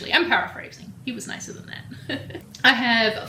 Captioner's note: chuckles